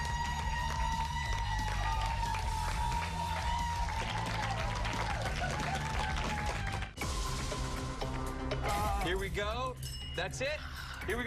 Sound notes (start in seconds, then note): 0.9 bell rings